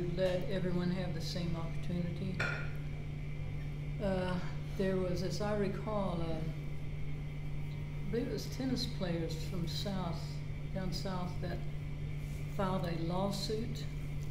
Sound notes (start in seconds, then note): none